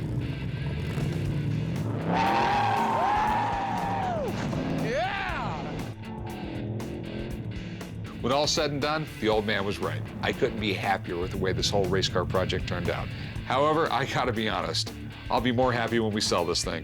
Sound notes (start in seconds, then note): 1.8 tires squeal; 2.2 cheering